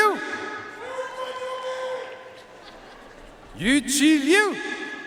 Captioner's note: audience cheering and applauding